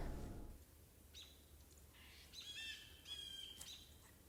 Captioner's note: birds chirping